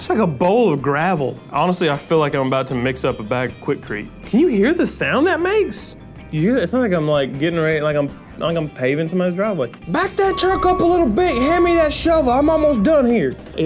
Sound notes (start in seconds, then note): 10.0 back up beeps